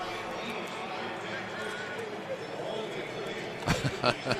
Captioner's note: pa announcement